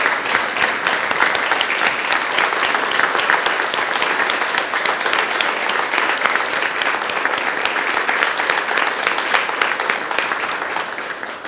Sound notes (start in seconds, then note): 0.8 claps continues